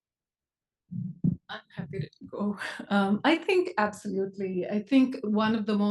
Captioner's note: laugh